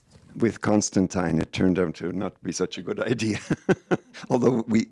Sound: laughing

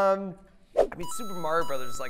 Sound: beeping

